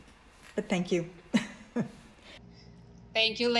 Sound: laughs

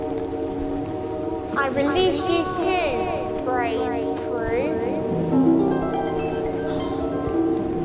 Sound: magic sound

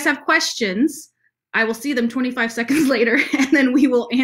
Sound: laughs

